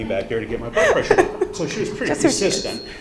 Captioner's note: host laughing